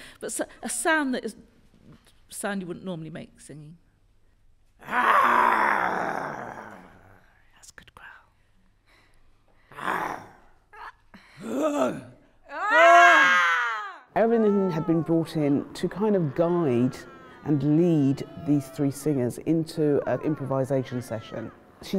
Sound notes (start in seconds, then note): 9.7 roars